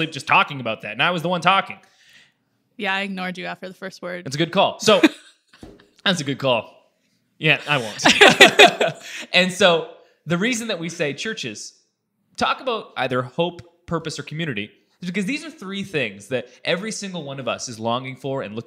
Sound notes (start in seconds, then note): 4.8 laughs; 7.6 laughing